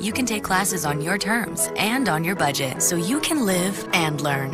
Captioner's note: none